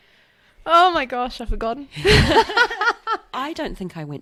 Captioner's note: laughs